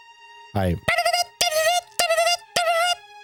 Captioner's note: imitating music